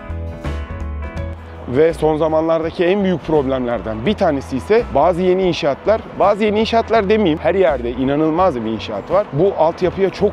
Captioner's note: constant construction